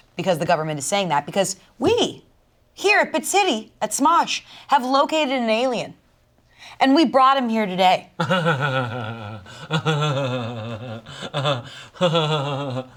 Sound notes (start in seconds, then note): 8.2 laughs